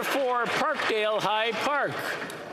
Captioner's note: some Applause